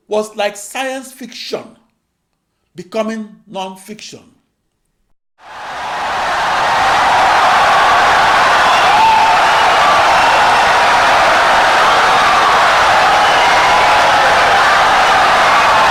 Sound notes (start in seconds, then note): 5.4 wild applause and cheering for 17 seconds